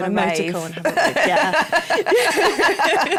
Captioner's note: laughter